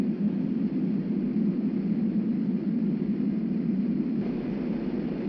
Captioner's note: wind whirring